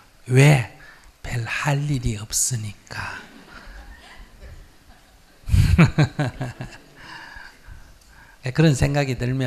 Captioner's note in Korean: 스님 웃음